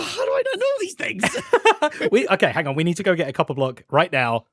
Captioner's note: laughs